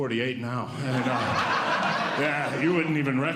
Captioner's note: audience Laughing